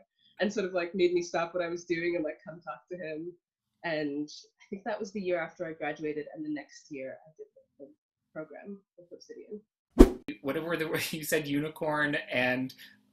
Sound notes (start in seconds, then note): 10.0 whoosh